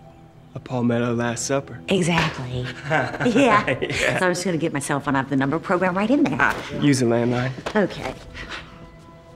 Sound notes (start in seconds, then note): 2.6 laughter